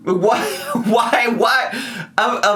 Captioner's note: laughs